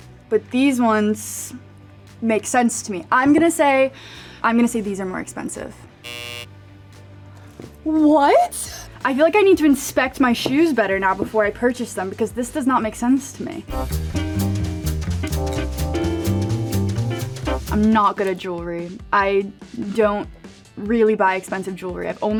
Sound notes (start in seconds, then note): 6.0 buzzer buzzes; 13.6 upbeat jazz music